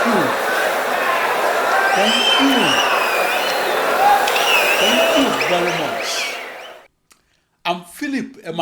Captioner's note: wild applause and cheering for 22 seconds